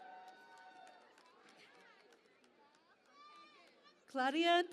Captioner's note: cheering and Applause